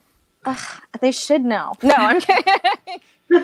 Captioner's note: laughs